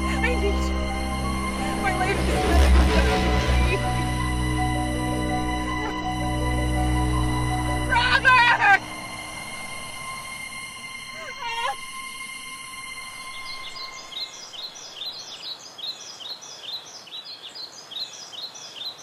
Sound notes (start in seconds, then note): 11.1 Kathryn sobs; 12.8 birds chirp